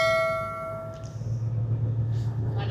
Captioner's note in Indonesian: lonceng